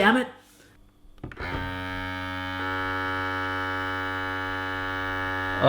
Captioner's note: machine buzzing